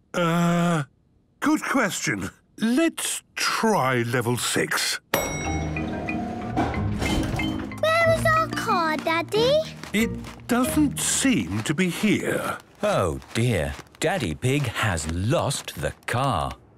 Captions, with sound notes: - Ugh... Good question. Let's try level six. - (elevator dings) - Where is our car, Daddy? - It doesn't seem to be here. - Oh, dear! Daddy Pig has lost the car!